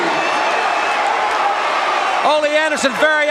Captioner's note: crowd cheering